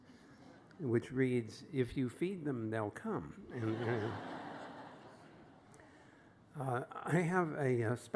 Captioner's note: laughter